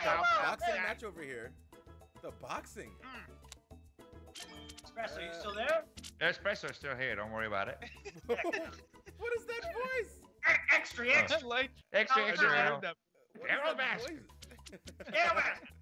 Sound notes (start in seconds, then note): 7.8 laugh